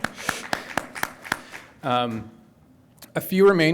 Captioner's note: audience applauds